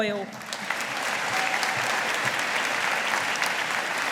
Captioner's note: audience applauding